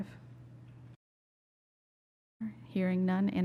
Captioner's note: silence